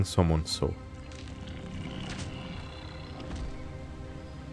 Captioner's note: wet snake dying noises